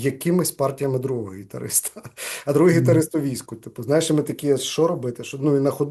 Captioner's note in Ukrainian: сміється